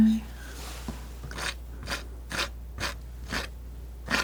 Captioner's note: scratching